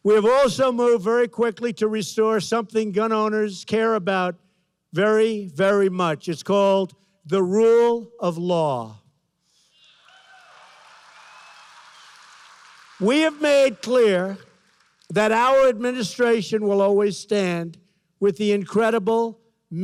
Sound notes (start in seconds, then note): 9.8 applause